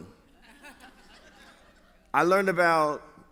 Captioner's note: laughter